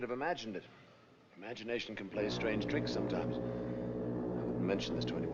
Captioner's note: foghorn Blows